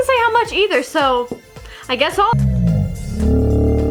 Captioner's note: slow motion sounds